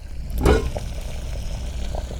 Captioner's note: water boiling